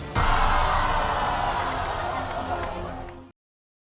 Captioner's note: hollering